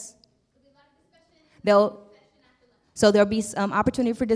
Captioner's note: murmurs